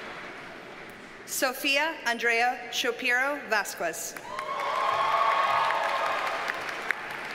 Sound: audience cheers and applauds

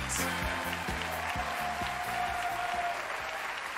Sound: cheering

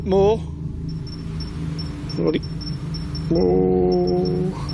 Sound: device beeps

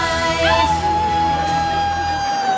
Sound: howling

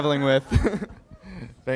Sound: chuckles

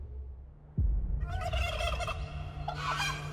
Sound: turkey gobbling

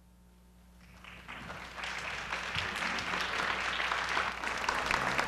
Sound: applause

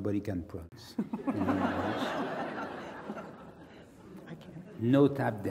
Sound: laugh

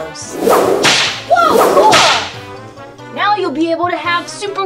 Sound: whip cracks

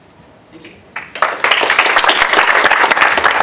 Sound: applause

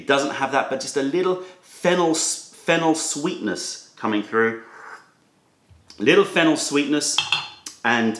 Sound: sips tea

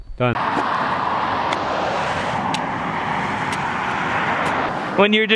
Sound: cars driving

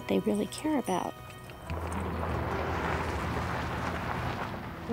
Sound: truck driving past

